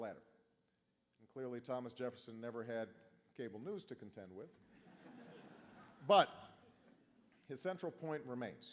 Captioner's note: laughter